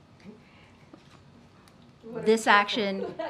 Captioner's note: laughs